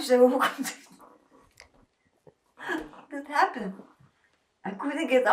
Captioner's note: laughing